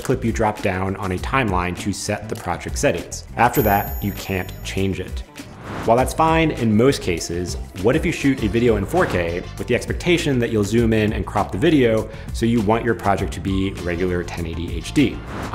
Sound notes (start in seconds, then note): 3.5 bell dinging; 5.4 wind whooshing